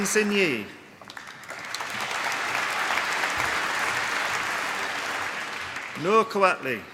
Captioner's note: applause